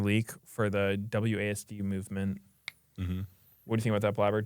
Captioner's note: snaps fingers